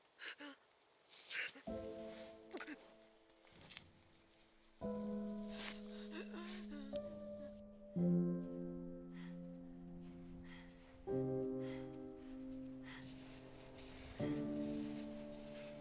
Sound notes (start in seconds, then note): 1.6 Brigit gasping; 1.6 soft tense music